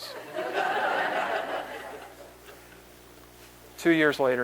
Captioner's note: laughter